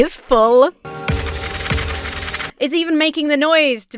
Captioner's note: warning sound plays